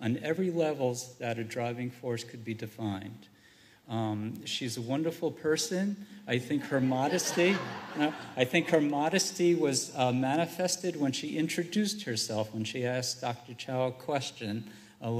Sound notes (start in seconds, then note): 6.6 laughter